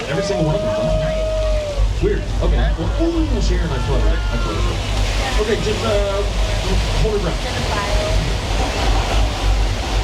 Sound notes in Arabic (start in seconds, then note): 0.0 الركاب يهتفون; 4.4 يندفع الماء